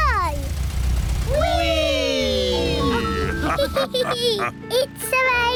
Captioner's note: all laugh